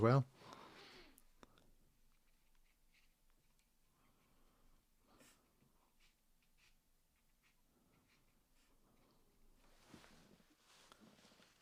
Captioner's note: silence